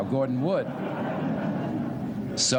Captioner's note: laughter